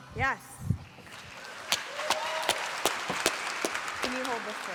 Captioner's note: applause